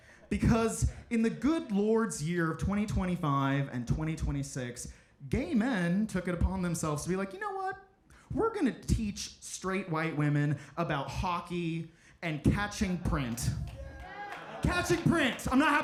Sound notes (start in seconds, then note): 13.2 audience cheering